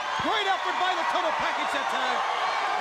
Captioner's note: crowd cheering